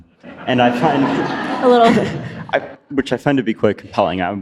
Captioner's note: audience laughs